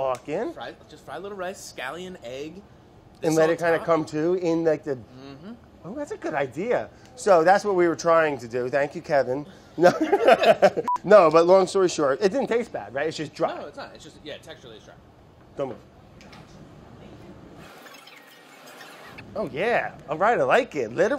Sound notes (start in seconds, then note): 9.8 laughs; 17.1 fast forward noises